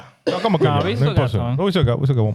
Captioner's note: speaking In Foreign Language